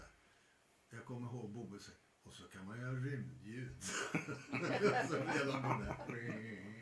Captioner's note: laughter